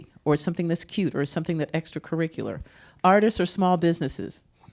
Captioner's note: none